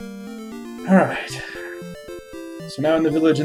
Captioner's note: sighing